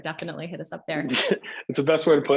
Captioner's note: laughs